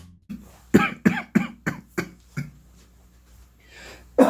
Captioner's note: coughs